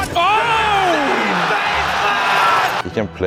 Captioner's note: audience cheers